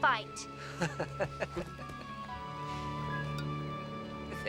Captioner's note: Savage laughing